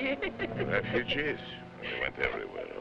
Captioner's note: laughing